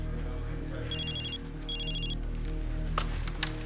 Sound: ringing phone

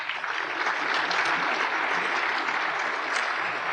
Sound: applause

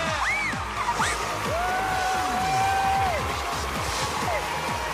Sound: shriek

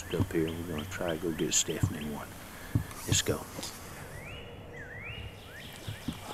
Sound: dogs barking

